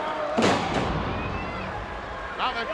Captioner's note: ground slamming